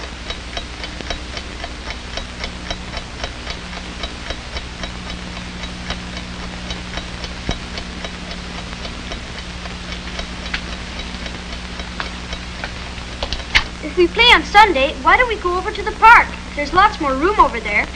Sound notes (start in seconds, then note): 14.9 Eric talking happily on phone